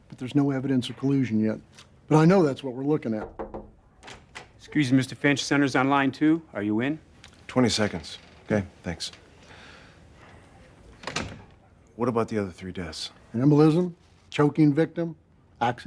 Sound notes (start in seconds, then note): 3.1 soft knocking